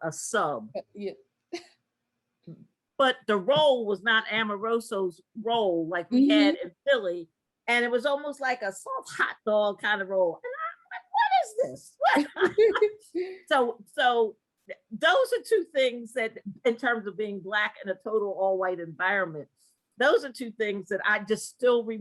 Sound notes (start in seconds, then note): 14.9 laugh